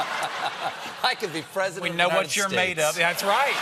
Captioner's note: laughter